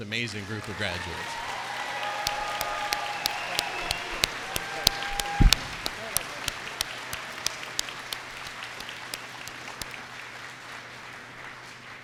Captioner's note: cheers and applause